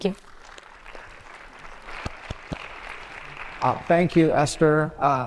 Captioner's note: attendees applauding